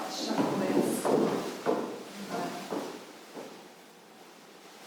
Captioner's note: shoes tapping